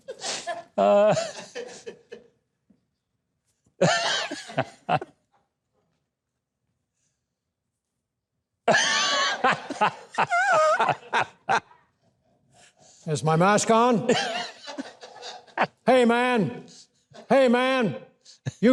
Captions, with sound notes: (hosts laughing) (audience laughing) - Is my mask on? Hey man, hey man.